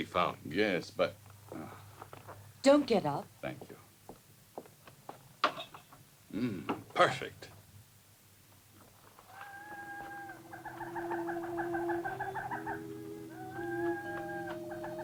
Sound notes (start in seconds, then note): 9.2 animal clucking; 12.2 somber music